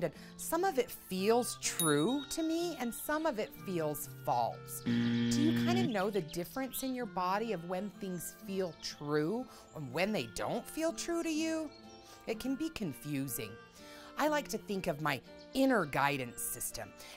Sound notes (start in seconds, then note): 1.8 bell pings; 4.8 buzzer drones